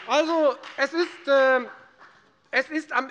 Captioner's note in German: Beifall bei der FDP